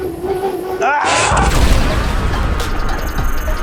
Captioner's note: screaming; playful music